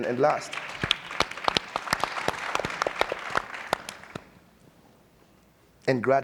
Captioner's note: audience and panelists applauding